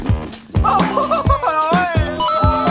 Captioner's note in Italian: risate